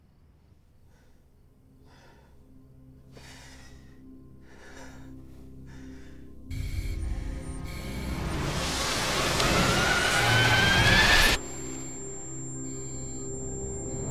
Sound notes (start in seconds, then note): 2.9 Mark breathes heavily; 8.3 tense music